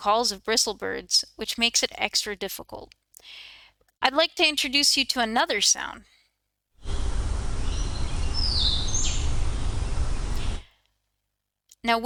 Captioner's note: second bird call playing